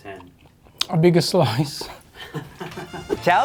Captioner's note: laughs; upbeat brass band music